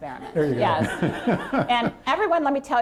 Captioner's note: laughter